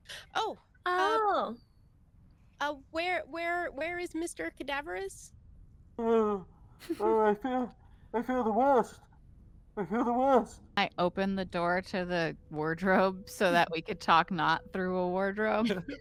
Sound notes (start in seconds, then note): 6.8 Violette laughs; 12.8 chuckles; 15.6 Cornette laughs